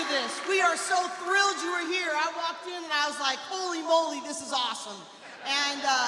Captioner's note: cheers and applause